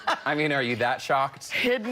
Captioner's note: laughter